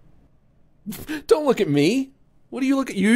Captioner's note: laughs